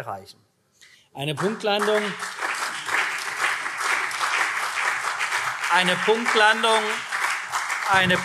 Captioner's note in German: Beifall CDU und SPD